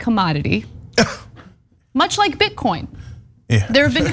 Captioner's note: laugh